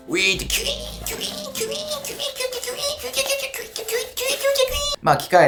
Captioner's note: machine noise